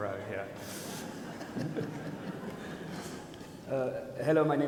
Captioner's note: audience laughs